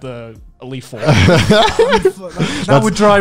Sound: laughing loudly

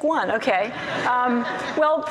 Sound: audience laughs

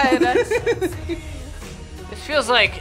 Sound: React laughs

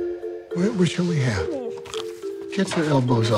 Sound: dog whimpering

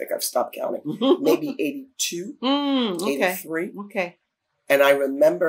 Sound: laughter

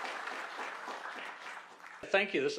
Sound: applause

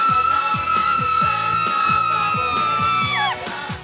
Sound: continued screaming; still more screaming

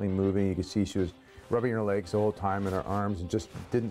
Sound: voiceover

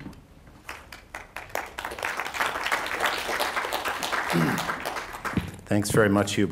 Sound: applause

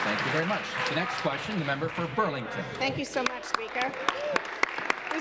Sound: applause

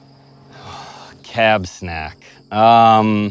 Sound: sighs

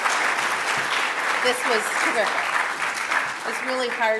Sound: applause

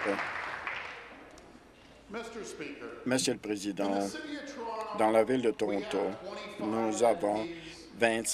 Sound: applause

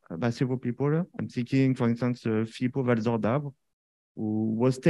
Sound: speaking french

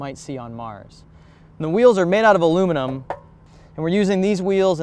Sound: knock knock

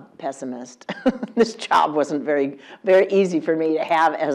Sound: laugh

